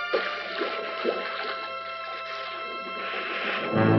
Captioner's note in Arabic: رذاذ الماء